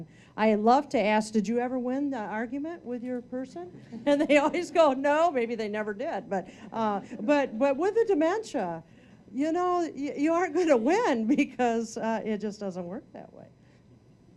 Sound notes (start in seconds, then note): 3.9 audience laughing